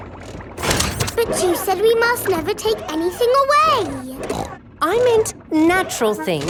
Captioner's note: snorts